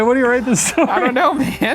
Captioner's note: laughs